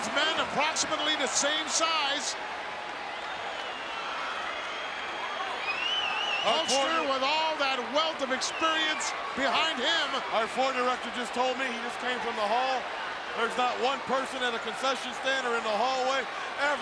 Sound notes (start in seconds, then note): 3.3 crowd cheers